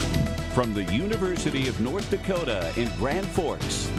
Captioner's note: upbeat music; voiceover